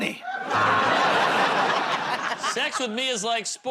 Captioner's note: laughter, buzzer